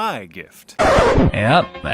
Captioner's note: record scratch